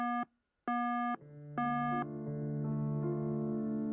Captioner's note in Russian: гудки